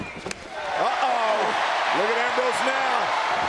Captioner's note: audience cheers